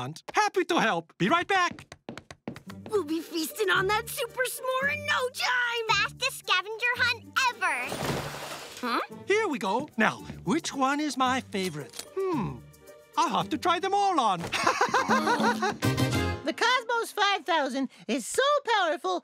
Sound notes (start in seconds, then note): 14.5 laughing